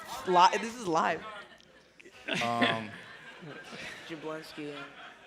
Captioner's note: laughter